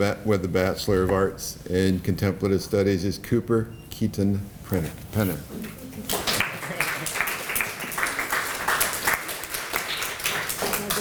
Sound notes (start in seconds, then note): 6.0 applause